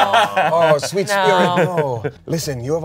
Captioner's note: everyone laughs